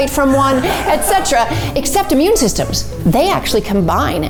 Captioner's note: laughing